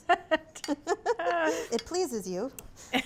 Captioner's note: both laugh